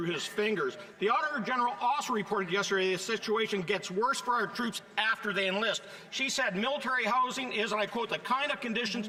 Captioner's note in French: voix de l'interprète